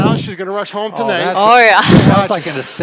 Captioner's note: laughs